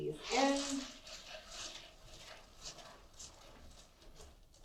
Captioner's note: cereal rattles in the pot